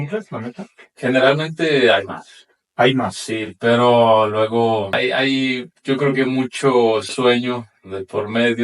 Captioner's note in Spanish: carraspeo